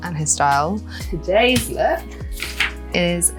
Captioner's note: paper flaps